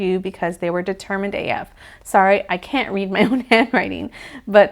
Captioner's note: chuckles